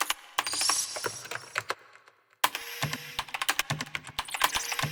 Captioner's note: typing on keyboard